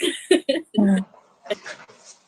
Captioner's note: laughs